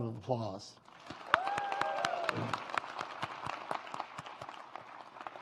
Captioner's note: audience applauds